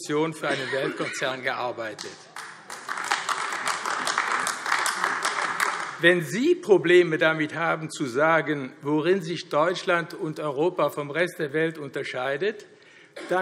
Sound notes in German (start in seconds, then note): 1.9 Beifall AfD